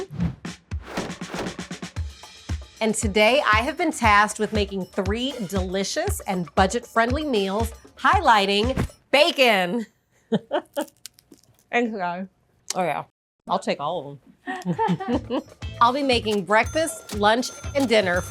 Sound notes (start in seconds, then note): 10.3 they chuckle; 10.8 bacon crunches; 14.5 they chuckle